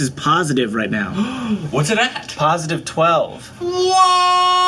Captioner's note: gasps